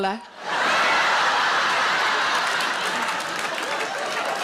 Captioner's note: audience laughs